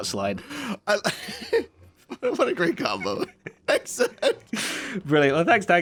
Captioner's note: laughs